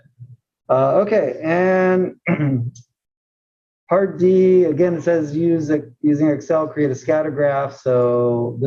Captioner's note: cough